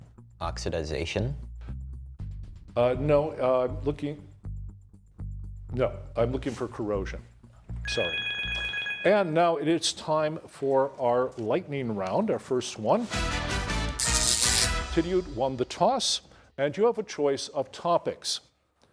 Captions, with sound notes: Oxidization. No, I'm looking for corrosion. Sorry. [bell chiming] And now it is time for our lightning round, our first one. [upbeat music] Tidioute won the toss and you have a choice of topics.